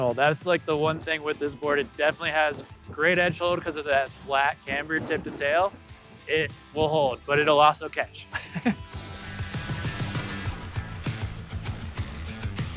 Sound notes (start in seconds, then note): 8.4 laughs; 9.2 upbeat music continues